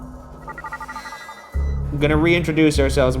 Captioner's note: image gently whooshing